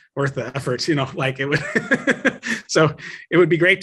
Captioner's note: laughs